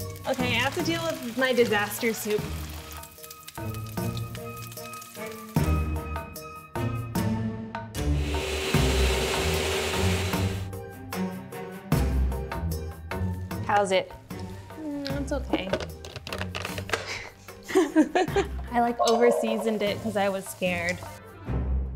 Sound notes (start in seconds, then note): 2.7 dramatic music; 8.1 blender whirring